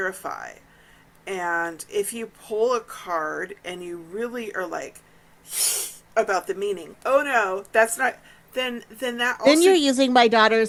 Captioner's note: hissing noise